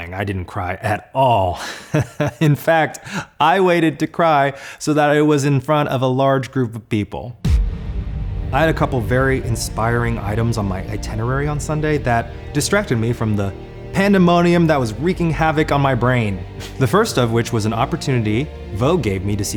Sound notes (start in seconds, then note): 1.6 laughs; 7.6 inspiring orchestral music